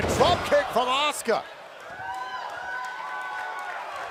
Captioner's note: cheers and applause